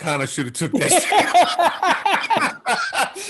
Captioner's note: both laughing